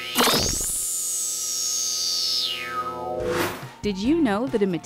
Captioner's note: sound Effects